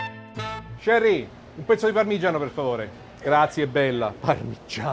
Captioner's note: speaking Italian